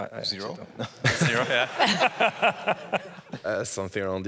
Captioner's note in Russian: смех